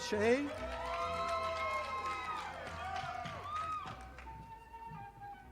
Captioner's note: audience applauding